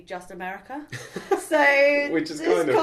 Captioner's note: laughs